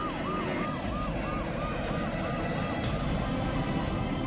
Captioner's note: ambulance siren; plane taking off